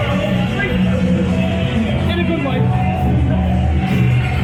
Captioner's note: Very noisy Liverpool nightlife